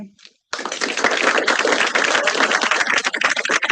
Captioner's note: applause